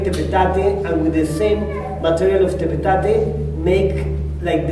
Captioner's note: spanish; spanish